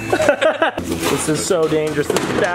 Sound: laughing

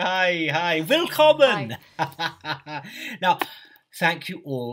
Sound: laughs

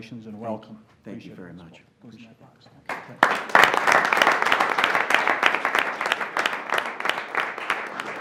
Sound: applause

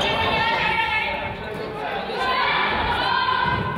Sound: coach yells

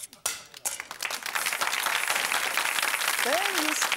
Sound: audience Claps

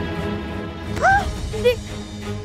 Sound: screams

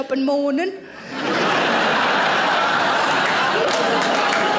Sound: audience laughing

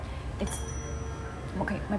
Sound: bell rings

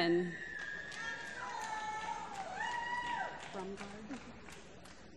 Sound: applause

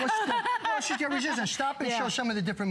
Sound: laughter

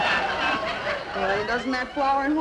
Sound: audience laughing

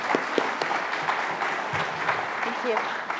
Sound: applause

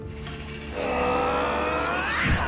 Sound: grunting

